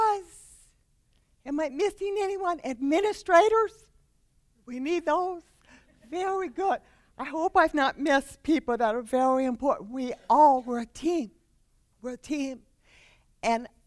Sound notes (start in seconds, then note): 5.7 laughter